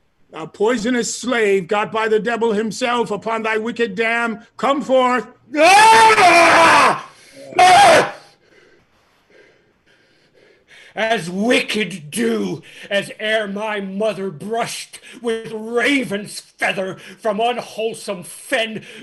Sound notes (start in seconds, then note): 5.5 scream